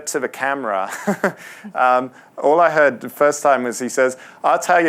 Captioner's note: laughs